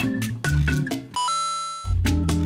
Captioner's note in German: Bossa-Nova-Musik; Videospielgeräusch; Bossa-Nova-Musik